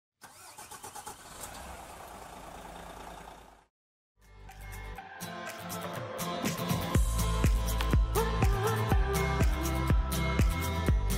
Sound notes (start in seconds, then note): 0.2 vehicle engine starts up; 4.2 upbeat music